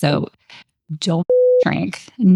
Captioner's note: beep